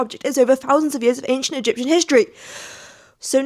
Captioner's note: breath